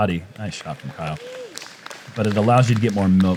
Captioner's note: applause; cheering